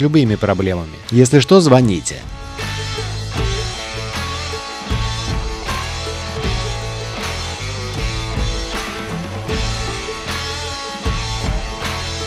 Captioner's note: applause